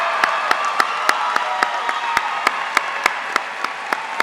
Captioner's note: cheers